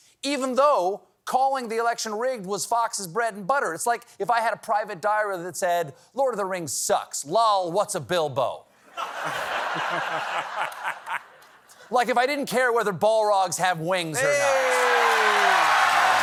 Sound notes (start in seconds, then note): 12.9 laughter